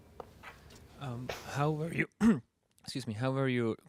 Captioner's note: clears throat